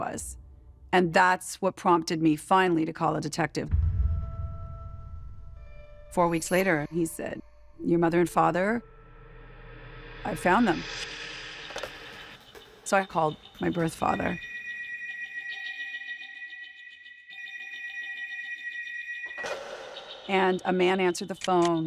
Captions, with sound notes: and that's what prompted me finally to call a detective. Four weeks later, he said, your mother and father, I found them. So I called my birth father. [phone rings] And a man answered the phone.